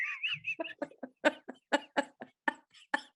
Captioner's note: laughing